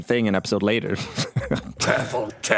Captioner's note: chuckles